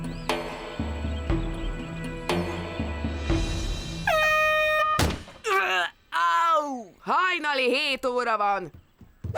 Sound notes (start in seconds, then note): 4.0 air horn blowing